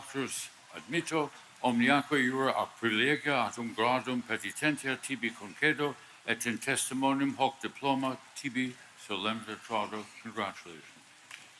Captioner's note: speaking Latin